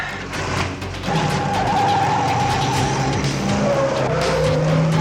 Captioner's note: car engine revs and tires squeal